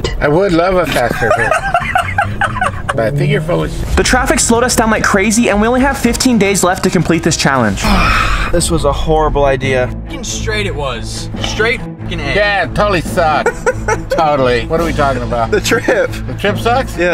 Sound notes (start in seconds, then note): 0.9 laughs